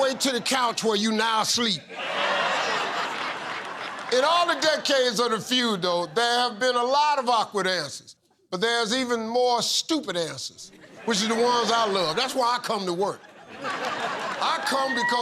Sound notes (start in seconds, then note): 1.8 laughter